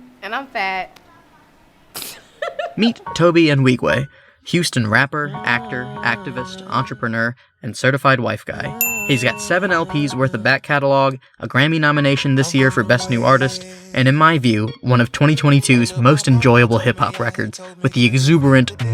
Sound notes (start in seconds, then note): 2.1 laughs